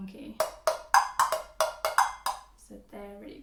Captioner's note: hollow tapping sounds